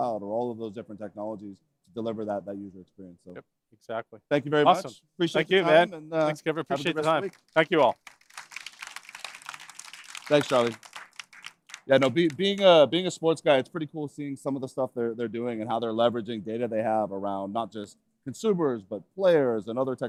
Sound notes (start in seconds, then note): 6.8 applause